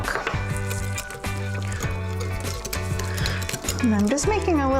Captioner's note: whisking